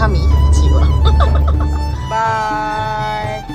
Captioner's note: laugh